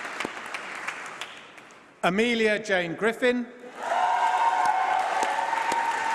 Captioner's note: applause